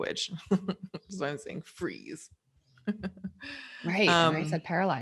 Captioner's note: laughs